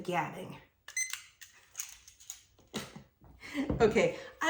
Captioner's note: timer beeps